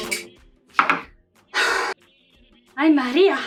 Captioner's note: sigh